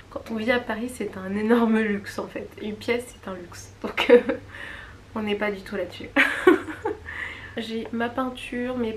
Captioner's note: laughs